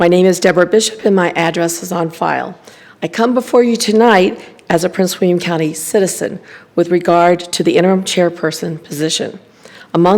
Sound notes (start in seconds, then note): none